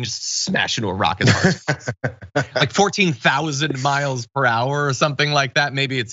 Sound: laugh

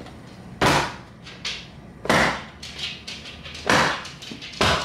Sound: slicer banging

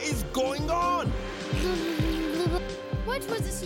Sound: blows raspberry

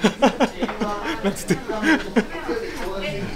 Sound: laugh

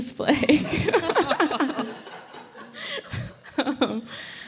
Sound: laughing

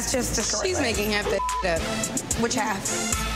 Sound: beep

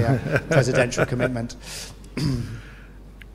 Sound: laugh

